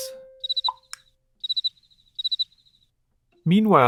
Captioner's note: cricket sound